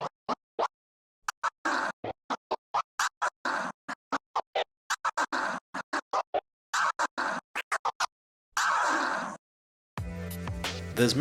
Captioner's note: scratch sounds